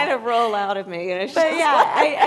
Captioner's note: laughs